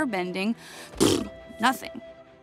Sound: blows a raspberry

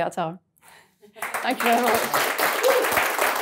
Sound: audience clapping

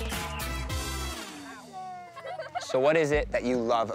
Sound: children laughing

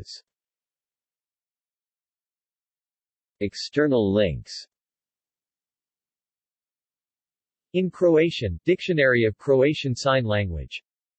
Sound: in Croatian

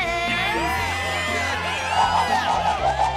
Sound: cheering

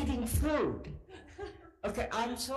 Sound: several laugh

